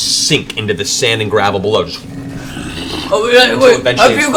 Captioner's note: shifting sound